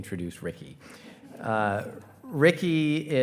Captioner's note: attendees laughing